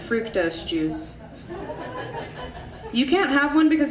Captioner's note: audience laughing